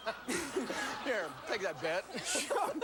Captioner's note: laughter